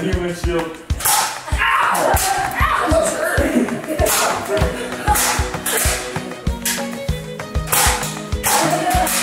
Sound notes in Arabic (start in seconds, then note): 4.0 نقر بندقية نيرف